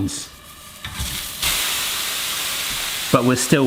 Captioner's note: watermelon sizzling